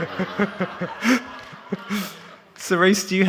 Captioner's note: all laughing